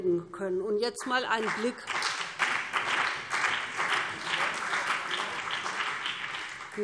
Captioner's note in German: Beifall BÜNDNIS 90/DIE GRÜNEN und vereinzelt CDU